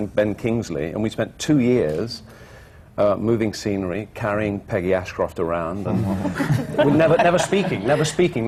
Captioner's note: laughter